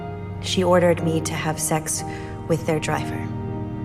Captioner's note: voiceover